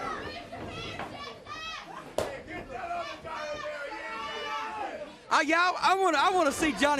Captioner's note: crowd chatter